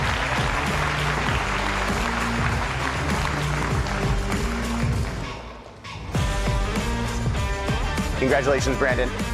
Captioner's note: applause and cheering